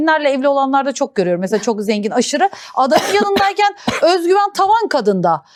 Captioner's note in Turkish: kahkaha